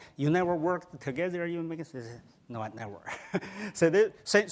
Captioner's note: laughs